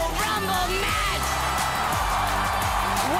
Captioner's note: cheers and applause